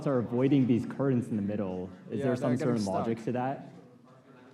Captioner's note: none